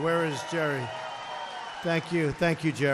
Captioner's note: applause